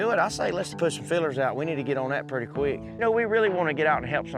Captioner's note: none